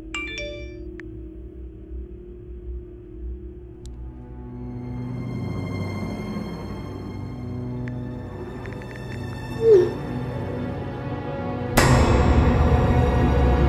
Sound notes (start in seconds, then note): 0.0 text alert; 8.5 texting